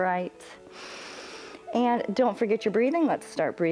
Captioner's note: inhales